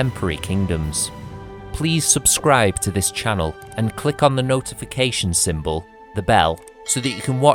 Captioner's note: the bell